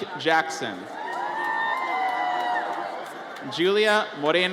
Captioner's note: audience cheers